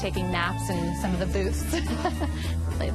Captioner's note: laughs